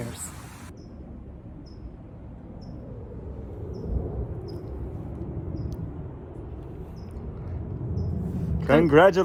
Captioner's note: plane engine revving